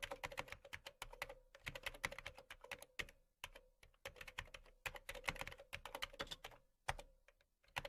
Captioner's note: keyboard sound